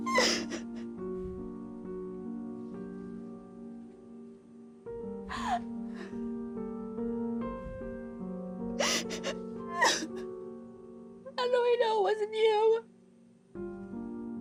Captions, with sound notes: (soft piano music) (crying) - How do I know it wasn't you?